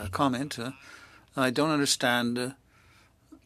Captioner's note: speaking French